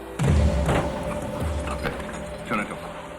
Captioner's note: dummy clatters